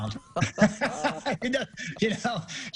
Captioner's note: laughing